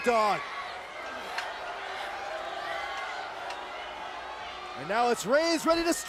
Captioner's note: crowd exclaiming